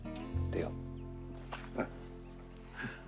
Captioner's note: Hank chuckles